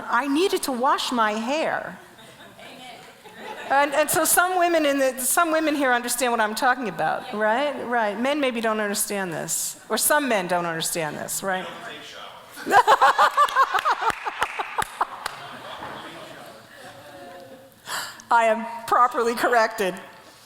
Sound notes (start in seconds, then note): 3.2 audience laughs; 12.6 laughs